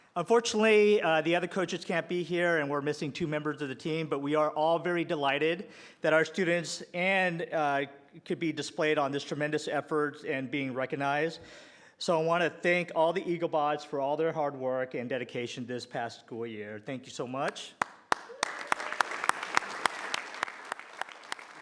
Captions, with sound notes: Unfortunately, the other coaches can't be here and we're missing two members of the team, but we are all very delighted that our students could be displayed on these tremendous efforts and being recognized. So I want to thank all the Eaglebots for all their hard work and dedication this past school year. Thank you so much. (applause)